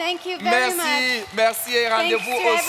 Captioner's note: continues in French